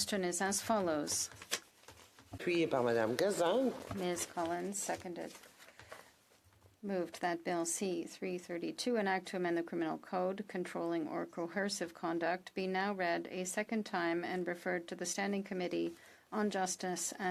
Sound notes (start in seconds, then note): 2.6 speaking French